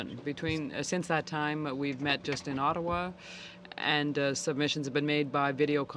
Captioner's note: speaking French